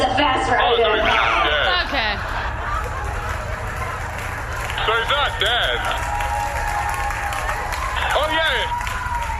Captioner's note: audience woos